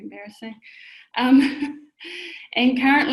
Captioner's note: laughs